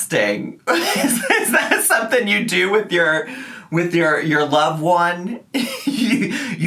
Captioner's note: laughs